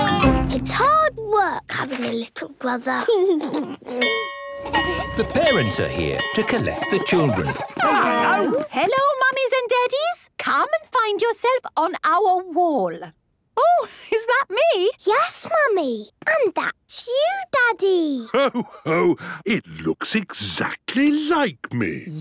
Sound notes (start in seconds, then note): 3.2 giggles; 4.0 bell ringing